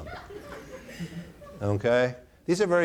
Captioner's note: audience laughing